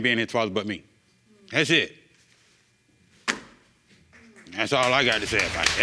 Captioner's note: audience murmuring; audience applauding